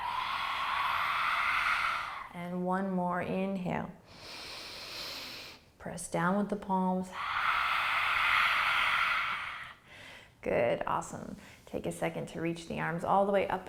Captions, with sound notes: (exhaling) And one more inhale. (inhaling) Press down with the palms. (exhaling) Good. Awesome. Take a second to reach the arms all the way up